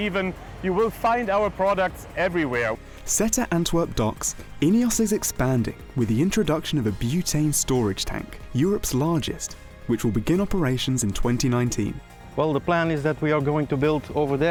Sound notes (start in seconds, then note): 2.6 male Voice